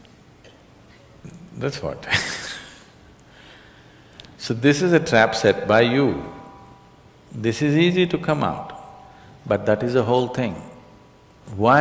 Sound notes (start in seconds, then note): 0.2 laughter; 2.9 laughs